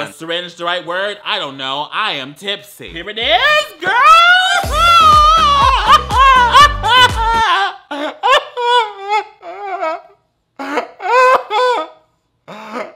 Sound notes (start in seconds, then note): 4.5 upbeat music; 6.0 laughing; 8.3 crying